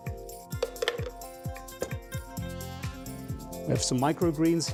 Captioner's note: spoon thunking in blender